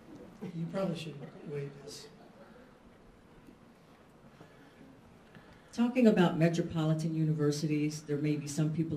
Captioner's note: chuckles